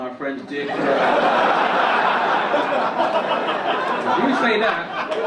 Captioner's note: audience laugh